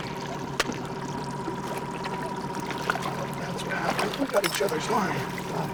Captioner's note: boat engine idling